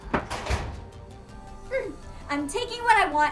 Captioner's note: door thuds; soft synth music